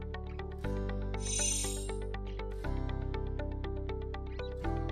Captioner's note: chimes tinkling